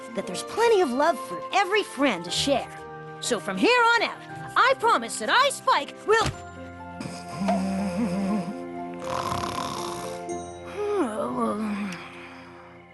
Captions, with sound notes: "That there's plenty of love for every friend to share. So from here on out, I promise that i, Spike, will --" [ Thud ] [ snoring ] [ Poink! ]